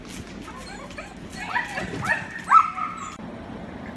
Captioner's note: dog yelping